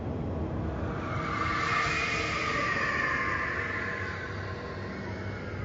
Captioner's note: screeching